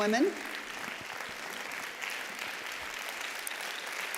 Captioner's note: applause